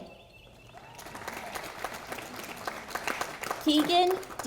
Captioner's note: audience applauding